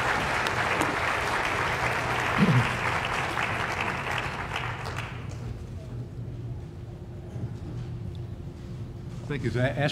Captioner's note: applause